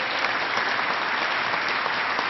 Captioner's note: applause